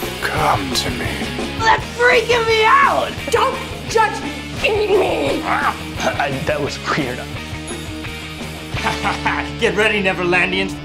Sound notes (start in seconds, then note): 4.7 growls; 7.6 bell dings; 8.7 laughs